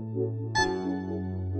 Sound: honk

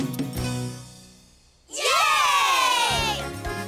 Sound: cheering

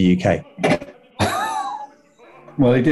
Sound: sniggering

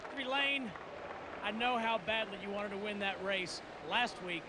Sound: cheers & applause

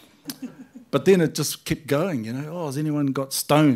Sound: laughter

